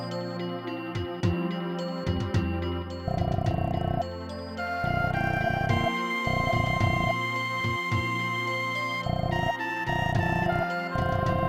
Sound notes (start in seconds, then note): 3.2 text whirring